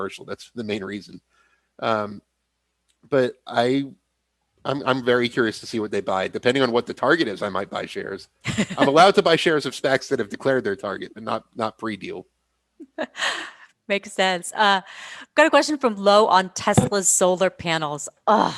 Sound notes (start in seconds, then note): 8.5 laughs